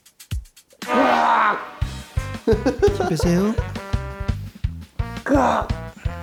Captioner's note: A sound effect fit for a zombie